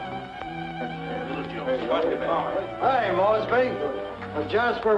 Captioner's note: many voices